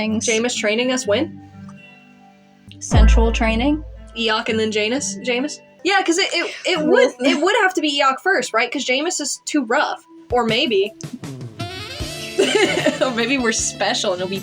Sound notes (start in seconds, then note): 3.0 rizz Sound; 12.4 laugh